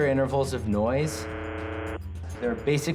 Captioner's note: static buzzing